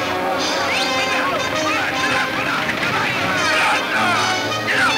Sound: yelling in Spanish

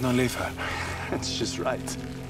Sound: scoffs

